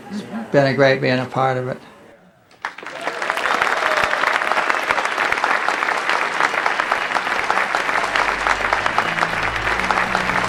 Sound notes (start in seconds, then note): 2.5 audience applauding; 6.6 dynamic music